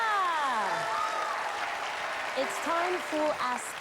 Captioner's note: cheers and applause